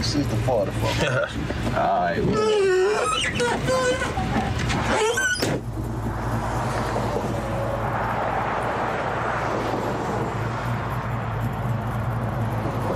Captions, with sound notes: It's 60/40. - All right. (door creaking) (door slams) (traffic roaring)